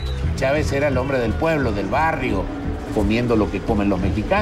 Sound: man speaking Spanish

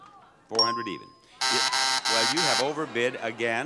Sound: buzzer buzzes

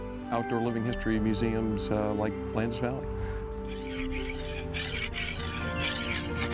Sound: scraping

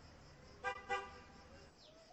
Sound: car honks

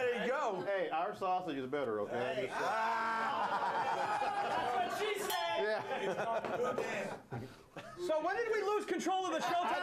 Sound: bell Rings

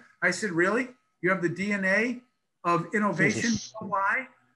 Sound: laughs

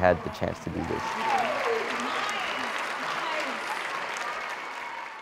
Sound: cheers

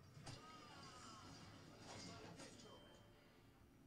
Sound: yelling

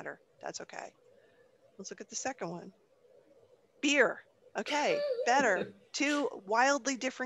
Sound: laughing

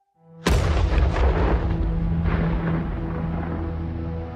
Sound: planet exploding; gentle music

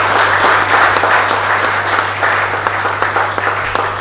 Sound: applause

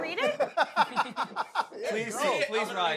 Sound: Ronnie laughing

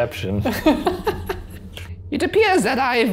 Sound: laughs

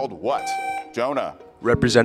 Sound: buzzer beeps

